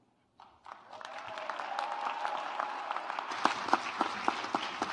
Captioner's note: audience applauds